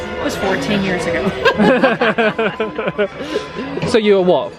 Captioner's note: both laughing